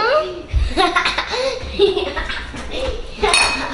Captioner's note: หัวเราะ